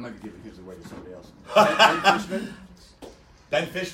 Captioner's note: laughter